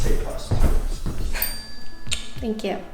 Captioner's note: bell chimes; kiss smacks